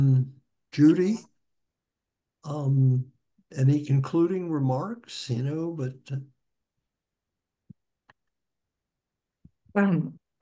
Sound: muted

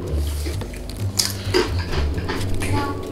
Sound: crunching continues

